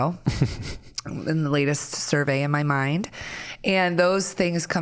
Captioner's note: chuckling